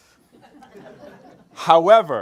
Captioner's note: group laughs